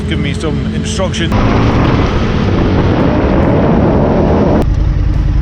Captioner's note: engine rumbling